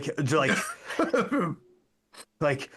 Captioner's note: laughing